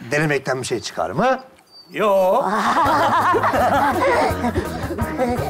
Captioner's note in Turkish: Gülüşmeler